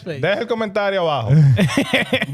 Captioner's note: speaking In Foreign Language